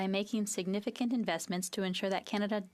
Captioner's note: speaking FRENCH